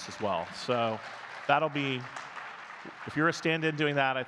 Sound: audience clapping

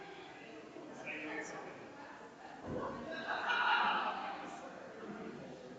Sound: people chattering distantly continues

